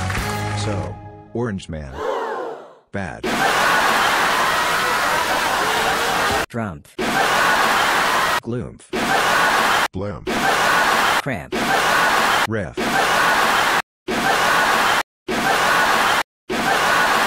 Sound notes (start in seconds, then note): 1.9 gasps; 3.2 cheers; 11.5 cheers; 14.9 more npc cheers